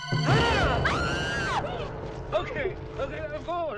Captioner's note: girls screaming; man screaming